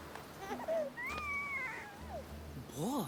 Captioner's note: baby sounds